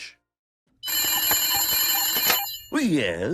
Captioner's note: phone rings